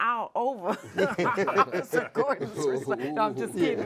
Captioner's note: laughs